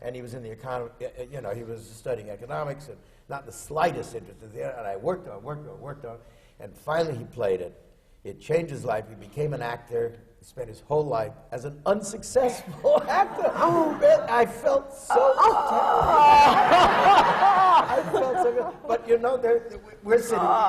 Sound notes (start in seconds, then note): 15.0 gasps and moans from the audience and panel; 16.0 laughter